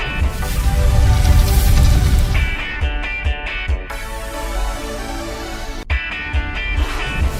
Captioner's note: segue: screen whooshing